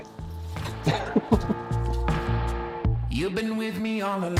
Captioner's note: both chuckling